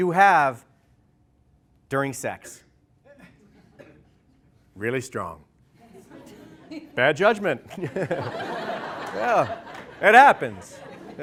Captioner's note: laughter